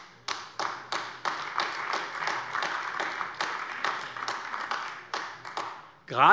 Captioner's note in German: Beifall AfD